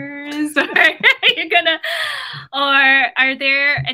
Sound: laugh

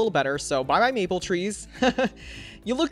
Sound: laughs

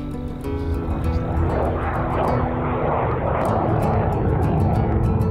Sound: plane engine roaring

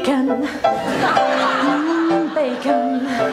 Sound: laughter

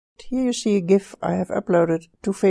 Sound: voiceover

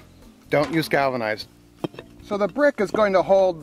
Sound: bricks thump

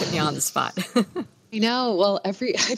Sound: laughs

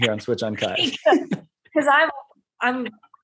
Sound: laughing

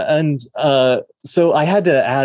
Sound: none

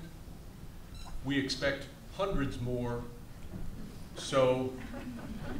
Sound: audience chuckles

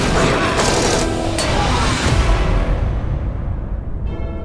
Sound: gunfire blares

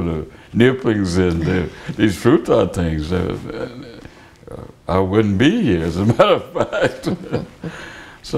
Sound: laughter

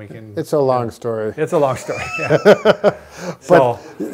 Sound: both laugh

